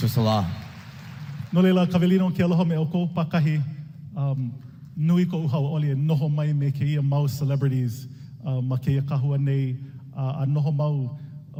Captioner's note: speaking native language